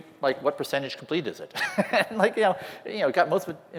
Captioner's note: laughter